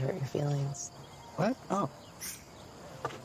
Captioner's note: scoffs